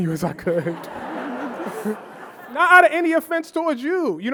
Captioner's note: audience laughing